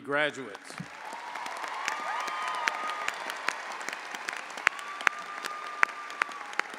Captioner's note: audience applauding; audience cheering